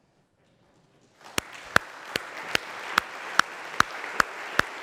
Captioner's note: audience applauds